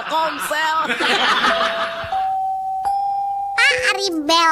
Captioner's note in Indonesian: tertawa